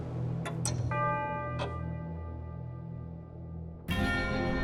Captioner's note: clock chimes